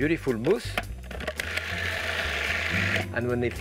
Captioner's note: food processor grinding